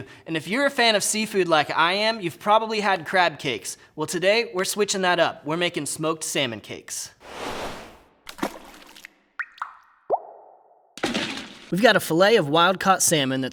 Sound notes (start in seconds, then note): 8.2 splash; 8.3 water drops